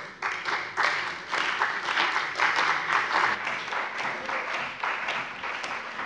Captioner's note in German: Beifall bei dem BÜNDNIS 90/DIE GRÜNEN und der CDU